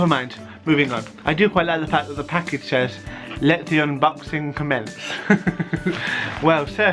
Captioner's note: laughter